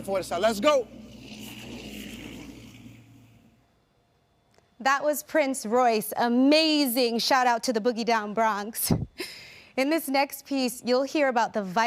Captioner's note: speaking in native tongue